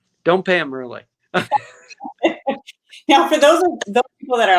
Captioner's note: laughter